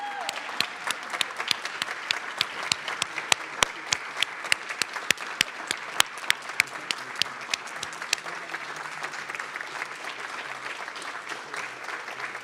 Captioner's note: applause